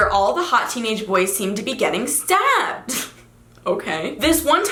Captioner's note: laughs